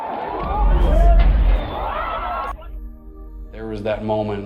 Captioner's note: speaking foreign language